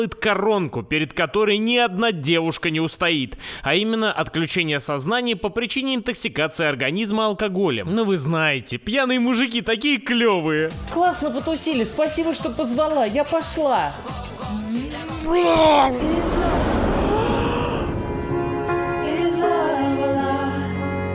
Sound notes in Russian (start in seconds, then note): 7.7 с сарказмом; 15.6 блюёт